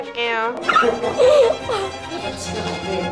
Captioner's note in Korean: 오열